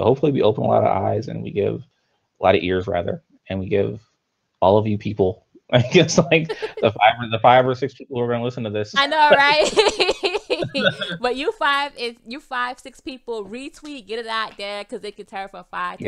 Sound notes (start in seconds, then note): 9.0 both laughs